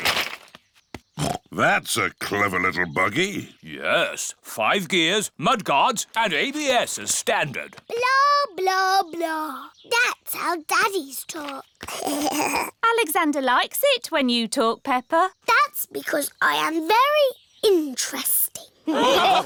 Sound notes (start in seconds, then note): 1.2 snorts; 11.8 alexander giggles